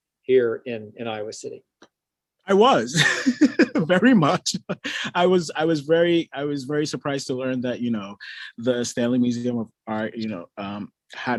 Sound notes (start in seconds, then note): 3.0 laughs